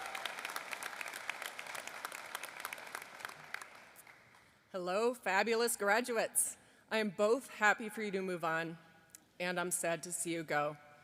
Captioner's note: applause